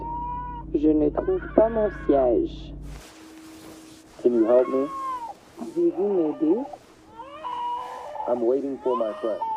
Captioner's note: french playback